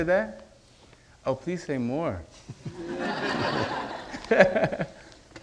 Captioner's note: audience laughing